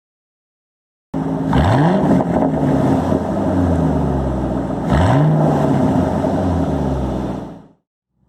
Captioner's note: V8 engine revving sounds